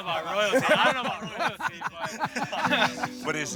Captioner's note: all laughing